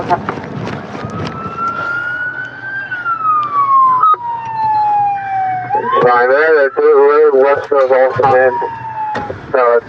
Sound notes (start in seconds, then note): 2.4 sirs blaring